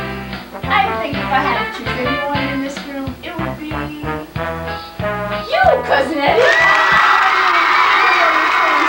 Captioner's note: applause